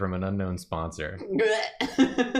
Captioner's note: disgust noise